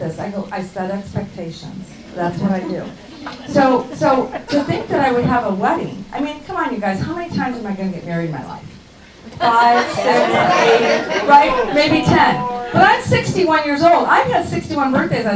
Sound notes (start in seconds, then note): 10.9 laughing